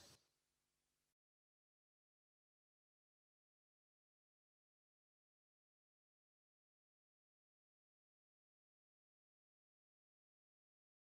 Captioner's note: silence